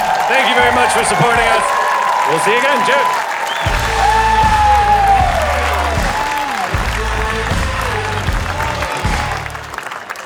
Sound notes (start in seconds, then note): 1.7 audience cheering; 3.6 outro music plays